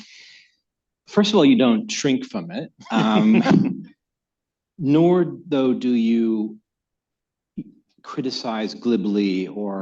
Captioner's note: laughter